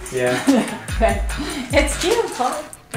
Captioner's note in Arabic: تضحك